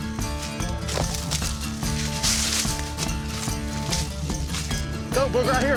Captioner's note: leaves crunching